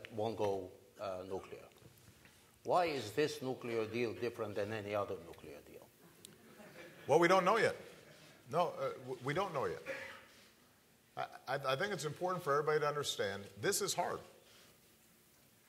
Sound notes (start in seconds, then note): 6.3 laughter